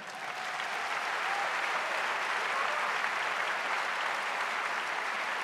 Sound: audience applauding

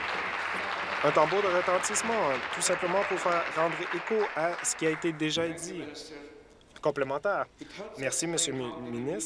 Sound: applause

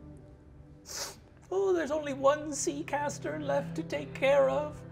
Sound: sniffs

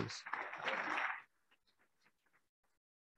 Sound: applauding

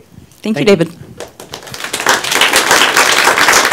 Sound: applause

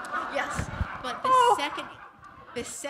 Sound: laughter

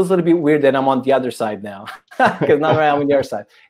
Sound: chuckles

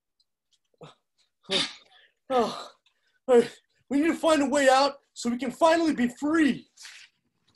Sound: breathing hard

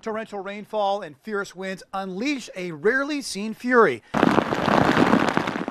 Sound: hard rain falling

